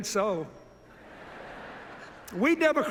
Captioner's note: laughter